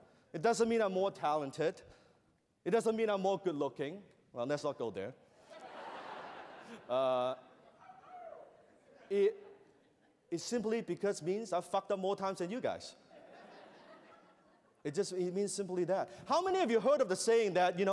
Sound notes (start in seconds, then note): 5.4 laughter